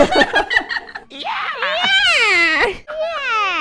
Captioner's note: laughter; mocking the yell